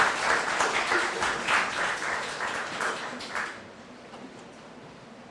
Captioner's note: applause